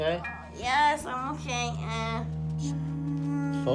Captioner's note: humming